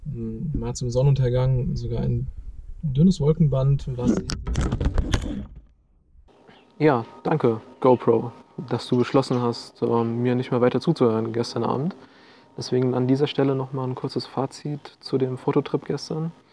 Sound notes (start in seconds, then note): 4.1 camera falling down